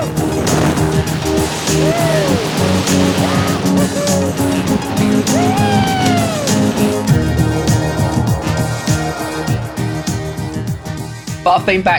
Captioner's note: indistinct screams of joy